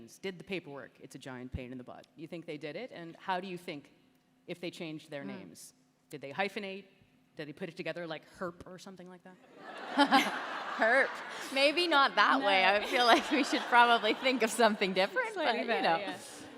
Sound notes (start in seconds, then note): 9.4 laughter